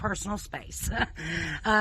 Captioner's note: laughing